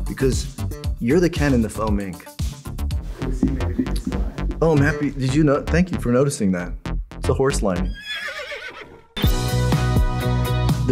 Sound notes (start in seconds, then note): 7.8 horse whinnies; 9.2 upbeat music